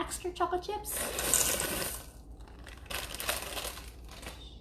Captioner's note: chips rattling